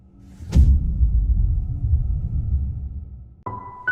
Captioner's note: dramatic sound; slow piano music playing